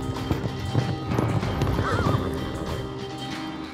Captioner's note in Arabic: صهيل الحصان